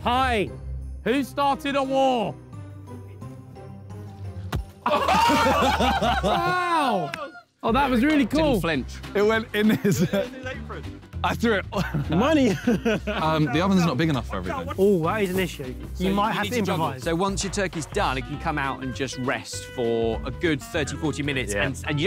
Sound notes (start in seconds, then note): 4.8 all laughing